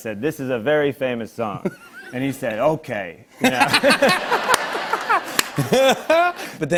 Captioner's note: laughter